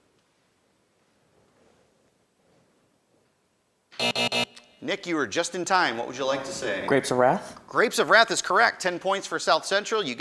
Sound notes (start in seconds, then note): 3.9 end time buzzer rings